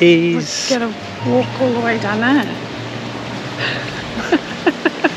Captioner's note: laughter